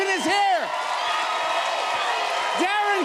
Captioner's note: cheers and applause